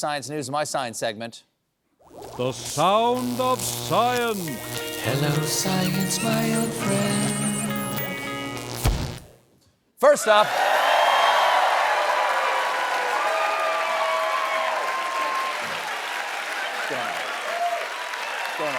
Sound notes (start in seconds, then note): 5.0 cheers and applause